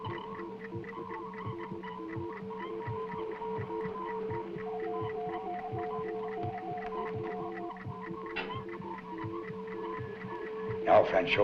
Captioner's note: ticking